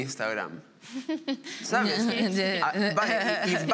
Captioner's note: they laugh